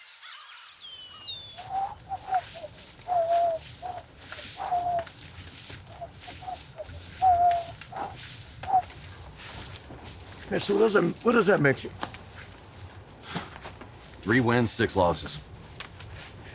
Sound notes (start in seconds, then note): 0.2 Anderson whistling